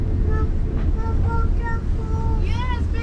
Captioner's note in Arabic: يغمغم